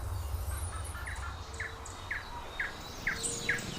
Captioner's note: birds chirping